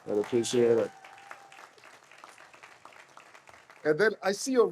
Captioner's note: audience applauds